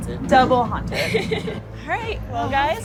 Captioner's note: laughs